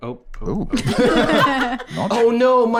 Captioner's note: all laughing